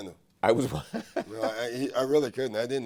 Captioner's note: laughs